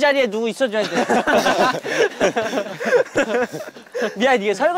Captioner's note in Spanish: Jajaja